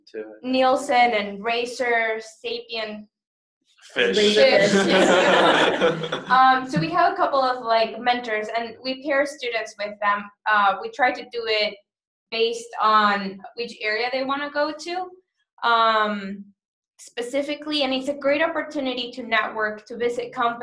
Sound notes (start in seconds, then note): 4.1 laughter